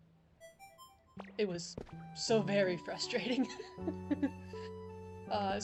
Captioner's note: giggles